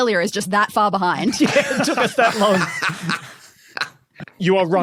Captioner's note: group laughing